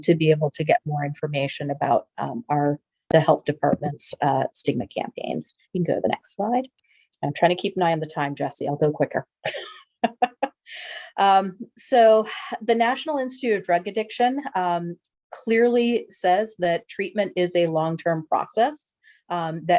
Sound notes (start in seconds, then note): 9.5 chuckles